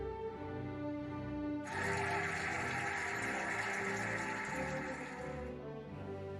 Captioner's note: cheering and applauding